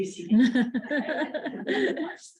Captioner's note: laughter